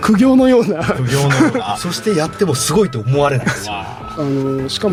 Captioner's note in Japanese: 笑い